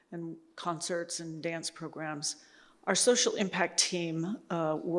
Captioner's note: none